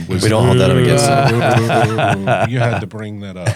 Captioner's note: applause